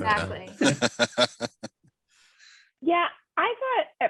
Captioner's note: laughs